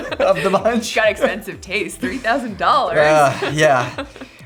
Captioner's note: laughs